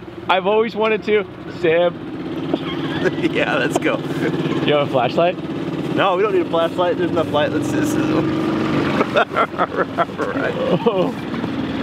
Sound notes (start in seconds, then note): 2.4 laughing; 7.9 indistinct chatters; 8.9 chuckling